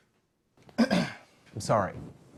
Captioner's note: clears throat